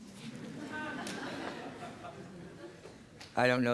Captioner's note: laughter